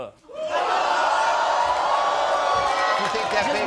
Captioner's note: crowd roars